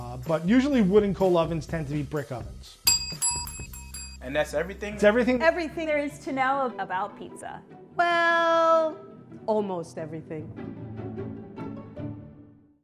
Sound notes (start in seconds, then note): 2.8 bells ring; 10.6 upbeat string music